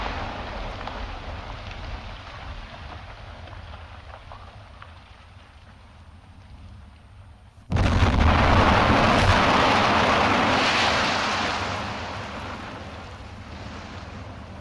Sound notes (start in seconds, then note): 7.7 explosion booms